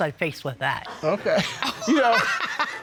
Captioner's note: Judge Dana laughing